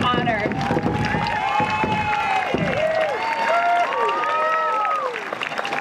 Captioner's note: crowd cheering and applauding